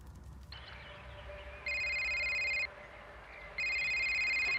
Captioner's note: birds chirping